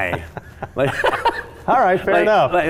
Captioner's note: laughing